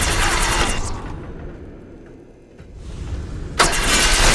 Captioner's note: Mechanical whirring. Wildman death gurgle